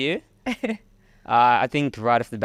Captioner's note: laughing